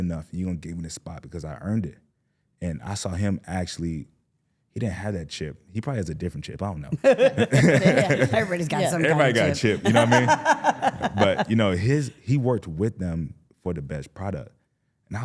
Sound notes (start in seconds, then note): 6.9 laughing